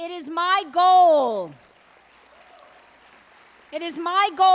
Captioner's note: applause